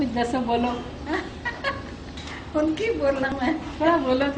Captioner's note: chuckles